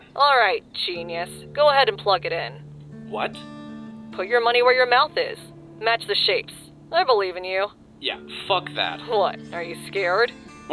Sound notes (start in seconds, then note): none